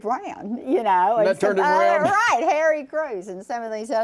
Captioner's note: laughs